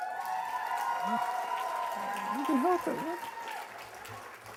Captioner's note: cheers and applause